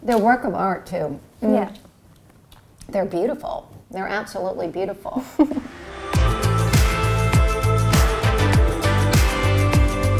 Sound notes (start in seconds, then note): 5.2 chuckles; 5.6 upbeat music